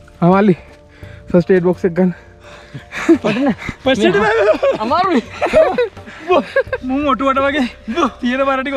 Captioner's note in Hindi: हांफते हुए